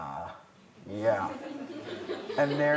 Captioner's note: laughter